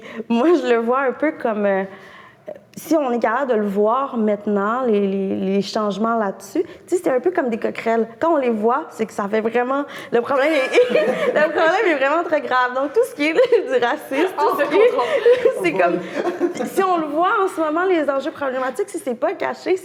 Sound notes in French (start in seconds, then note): 10.4 rires